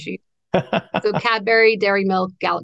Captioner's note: laughs